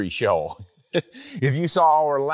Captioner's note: laughs